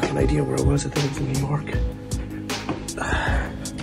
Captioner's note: sighs